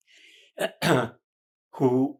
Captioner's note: clears throat